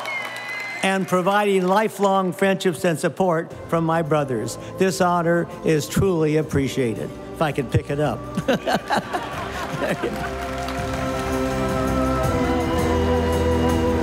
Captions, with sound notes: and providing lifelong friendships and support from my brothers. This honor is truly appreciated, if I could pick it up (laughing) (stately music) (audience applauding)